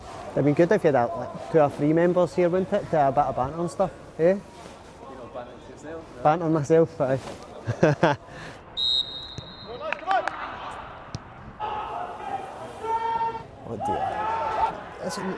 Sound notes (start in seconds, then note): 8.5 laughs; 8.7 referees whistle; 11.6 people shouting